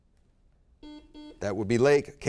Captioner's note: buzzer beep